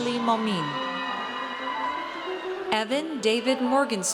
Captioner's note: audience cheers